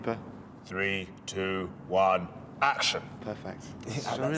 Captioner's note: in deep voice